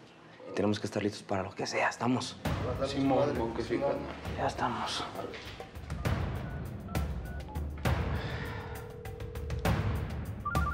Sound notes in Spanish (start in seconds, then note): 5.8 Sonido al marcar; 8.8 La otra línea timbra